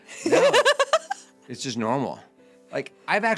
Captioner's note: laughing